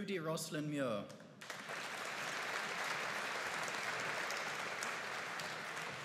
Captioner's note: audience applauding